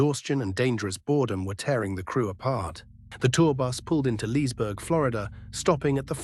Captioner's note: SFX: low electric hum